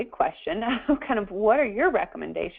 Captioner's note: laughter